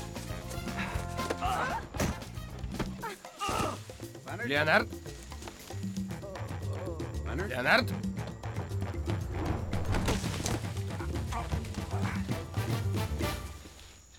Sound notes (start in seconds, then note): 6.0 leonard groani